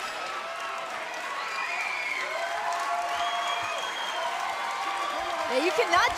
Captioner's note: cheers and applause